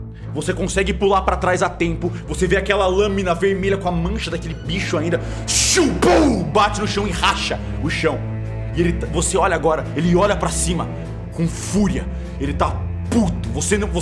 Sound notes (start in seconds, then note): 5.4 shhhh; 6.0 pow